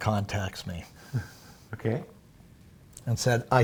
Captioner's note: chuckles